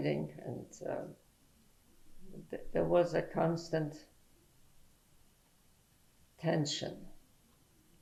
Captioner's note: pauses for 3 seconds